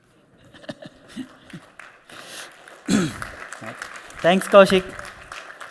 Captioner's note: applause